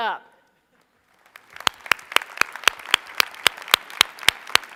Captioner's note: applause